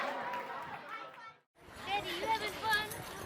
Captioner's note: background chatter